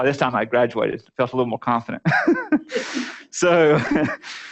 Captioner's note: laughter